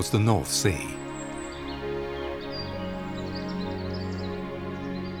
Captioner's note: birds singing